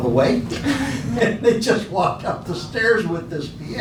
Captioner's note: laughing